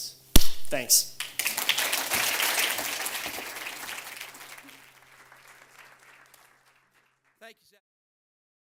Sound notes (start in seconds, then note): 1.2 claps hands; 1.2 audience applauds